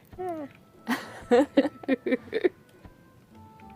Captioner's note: laughter